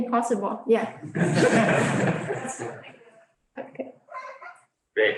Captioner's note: audience laughs